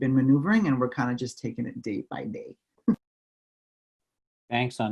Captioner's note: laughs